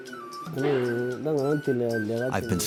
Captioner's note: painter speaks foreign language